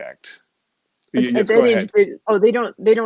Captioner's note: voice muffled